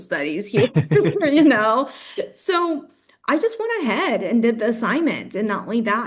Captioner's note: laughs